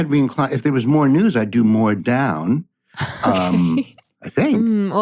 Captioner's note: laughs